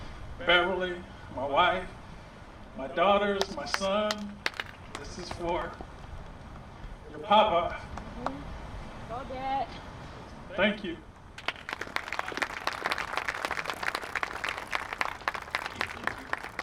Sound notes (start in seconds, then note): 11.3 applause